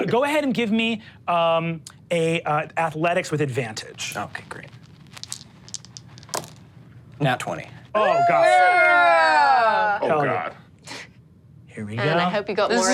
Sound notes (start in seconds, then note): 7.9 crowd cheers